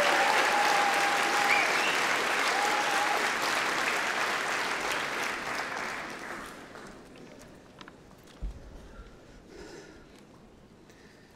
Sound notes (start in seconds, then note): 1.6 cheering & Applause